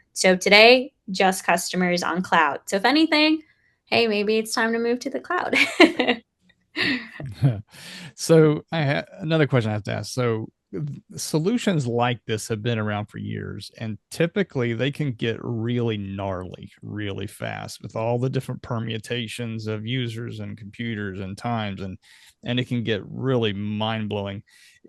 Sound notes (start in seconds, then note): 6.8 laughs